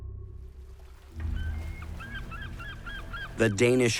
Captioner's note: seagulls squawking and water lapping